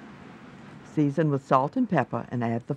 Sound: voiceover

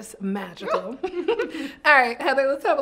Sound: both laugh

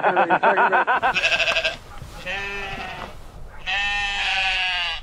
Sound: laughs; sheep bleating

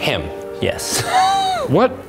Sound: wheezes

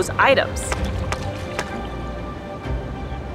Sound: background music; water splashing sounds; sound of rocks banging together; background music

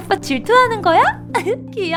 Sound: giggles

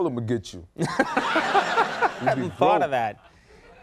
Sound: audience laughing

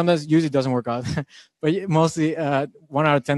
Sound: laughing

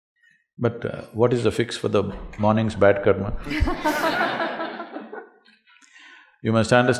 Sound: laughter

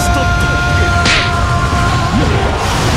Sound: boing

